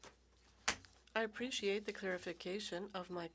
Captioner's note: speaking French